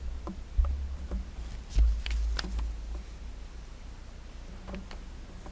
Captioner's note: light clattering